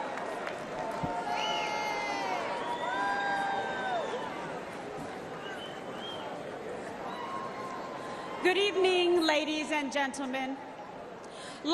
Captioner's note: applause